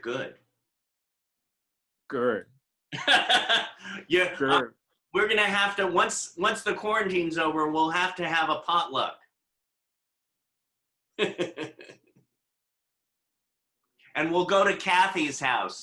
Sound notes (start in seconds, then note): 13.1 laughing